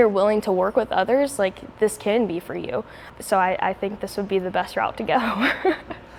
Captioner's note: laughs